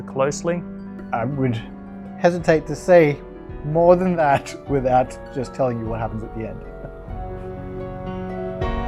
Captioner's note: laughs